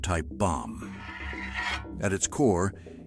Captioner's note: metal scraping